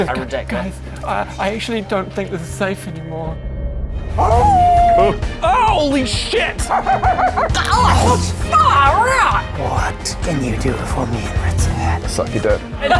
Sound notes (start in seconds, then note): 4.1 awoooooooooo!